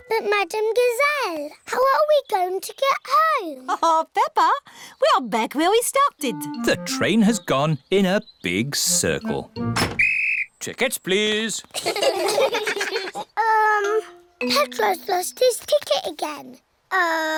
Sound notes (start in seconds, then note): 9.8 blows whistle; 11.7 all laugh